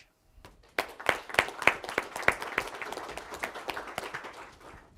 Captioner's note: applause